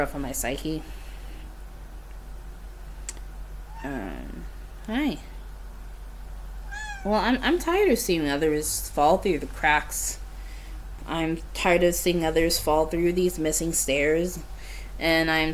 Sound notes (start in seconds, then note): 3.7 cat meows in background